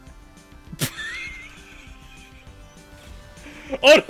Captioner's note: laughs